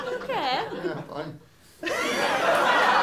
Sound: unconvincingly; laughter and applause

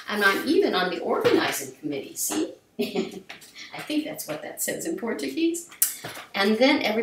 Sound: giggles

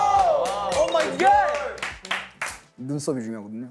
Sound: cheering for his rap performance

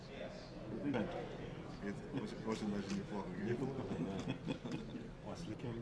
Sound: speaking foreign language

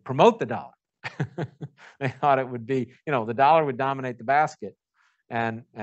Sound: laughs

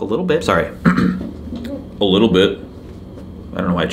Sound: clears throat

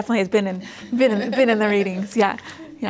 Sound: laugh

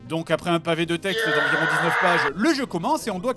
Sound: howls angrily

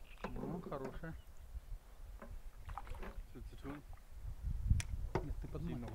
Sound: man speaking foreign language

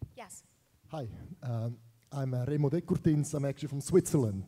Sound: speaking in another language

